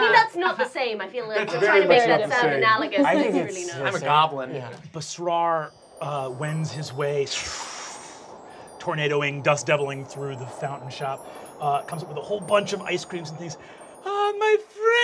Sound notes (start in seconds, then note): 6.3 makes swooshing noises